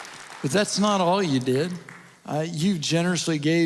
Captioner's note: audience Applause